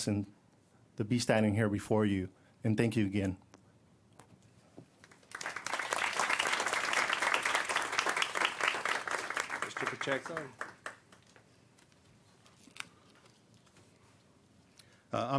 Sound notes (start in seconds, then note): 5.0 applause